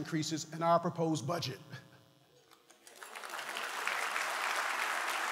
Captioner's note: applause